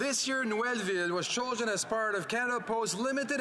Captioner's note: speaking French